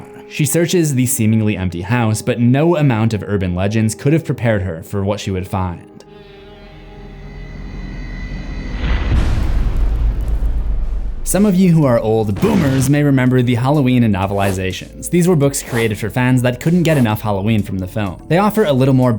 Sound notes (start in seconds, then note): 6.8 door creaking; 8.9 cinematic impact